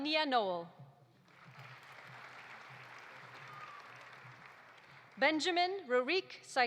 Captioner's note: audience applauding